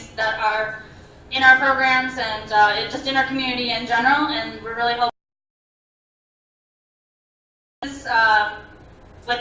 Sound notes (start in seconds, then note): 6.3 audio cuts out